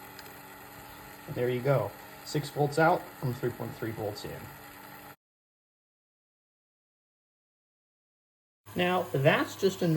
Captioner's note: motor noises increase in pitch